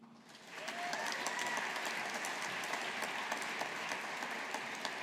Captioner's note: audience applauding